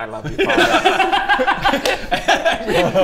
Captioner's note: stone cold laughter